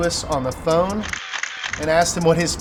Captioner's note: cameras Clicking